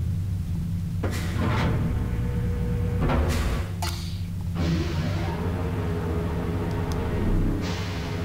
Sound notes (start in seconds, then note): 3.2 clank whoosh